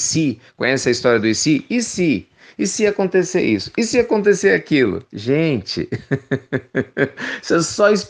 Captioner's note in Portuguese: risos